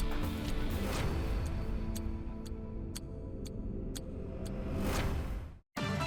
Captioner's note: energetic music; clock ticking; lively music